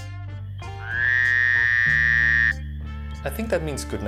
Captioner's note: frog sound